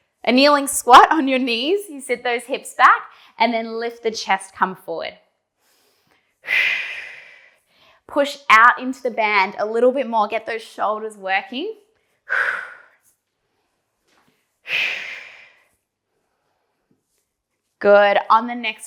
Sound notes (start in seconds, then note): 5.6 breathing sharply; 12.4 breathing sharply